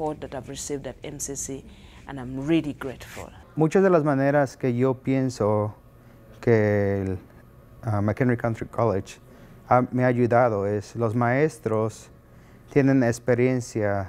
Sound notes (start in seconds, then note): 3.4 speaking spanish